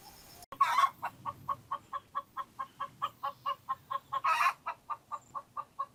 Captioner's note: sound of a hen boasting about laying eggs 🥚